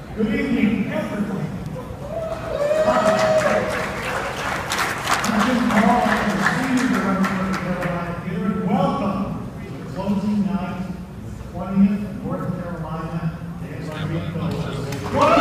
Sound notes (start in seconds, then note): 2.0 audience cheers; 15.0 audience cheers loudly